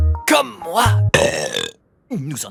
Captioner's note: burp